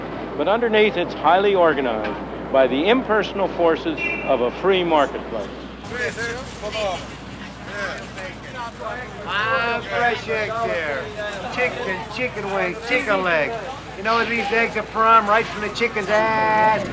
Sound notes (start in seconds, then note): 8.7 outdoor marketplace sounds